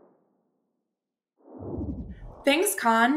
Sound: whoosh

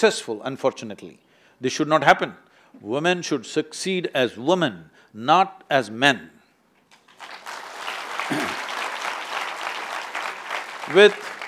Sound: applause

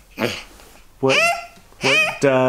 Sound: grunting; vocalizing

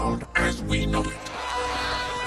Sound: crowd clamoring

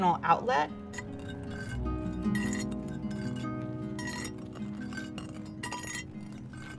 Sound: glass scraping

